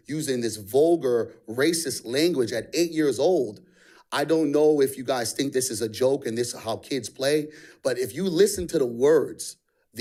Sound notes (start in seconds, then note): none